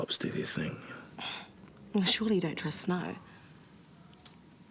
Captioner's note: scoffs